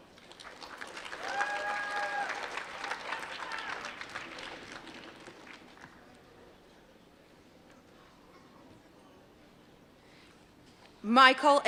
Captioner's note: applause